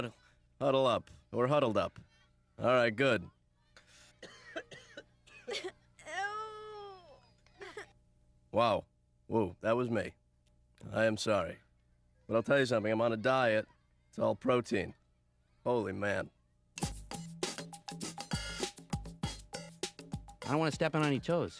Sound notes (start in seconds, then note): 4.8 sniffs; 5.9 kids coughing and whining